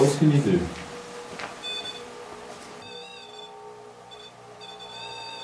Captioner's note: machine beeping